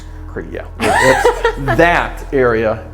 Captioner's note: laughs